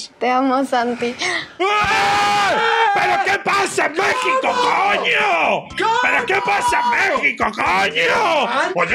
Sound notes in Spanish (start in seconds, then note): 1.7 gritan